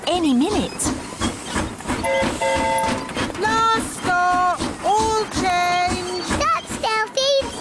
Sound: train whistle blowing

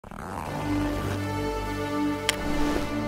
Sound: zipper closing; dramatic music

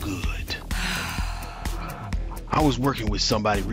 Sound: sighs

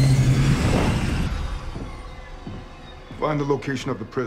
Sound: Quinjet engines shut off

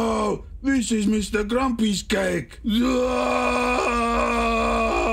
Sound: gasps; wails

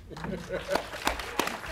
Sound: laughing; clapping

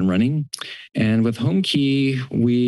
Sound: clicks tongue

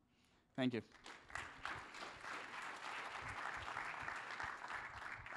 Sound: applause

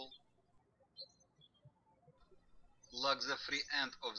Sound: birds chirping

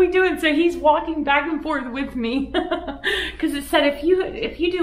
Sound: laughs

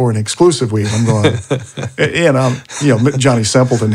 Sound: laughing

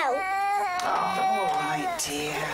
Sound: baby crying

